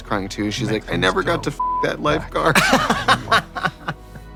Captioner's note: beeping